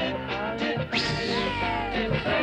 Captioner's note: swishing; kids cheering